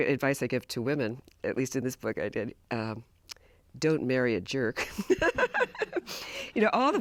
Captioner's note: laugh